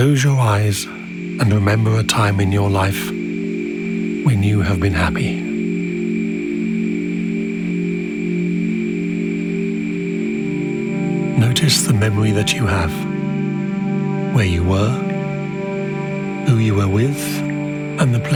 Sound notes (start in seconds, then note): 6.5 gentle music; 6.5 wind whistling